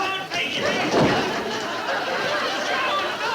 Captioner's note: loud fuss; audience laughing